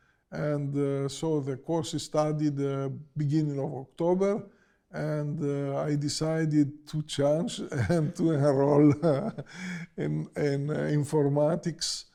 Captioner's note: laughs